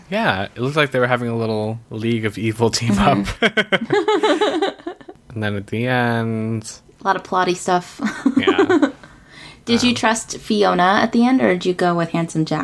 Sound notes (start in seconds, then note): 2.9 laughs